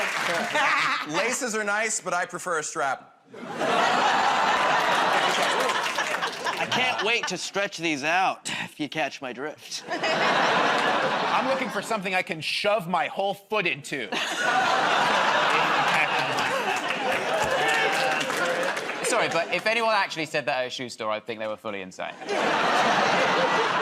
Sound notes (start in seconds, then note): 3.6 audience groans